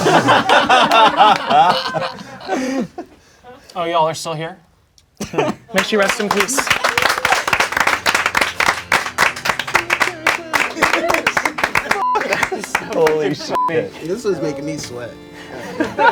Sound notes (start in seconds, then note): 0.0 crowd laughing; 5.7 crowd applauding; 9.2 organ music playing; 15.3 crowd laughing